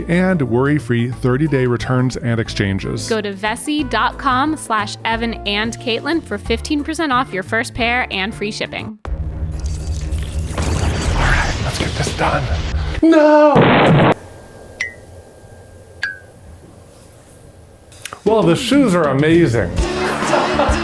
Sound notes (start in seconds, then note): 9.0 suspenseful music; 13.5 rocket explodes; 19.9 laughs